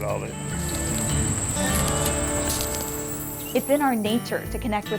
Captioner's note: crunching footsteps